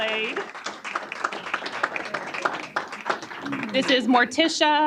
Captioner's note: applause